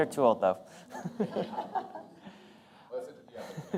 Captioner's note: laughter